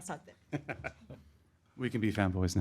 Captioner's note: laughing